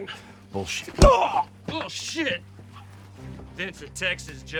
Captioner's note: grunts